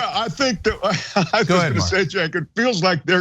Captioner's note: laugh